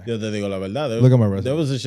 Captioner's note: speaking In Foreign Language